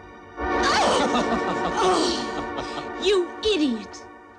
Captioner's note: ominous music; laughing; yelling